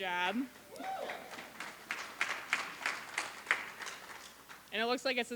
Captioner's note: applause